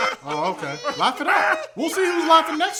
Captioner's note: all laughing except Eagles; weird laughing